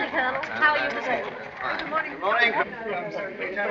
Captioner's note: chattering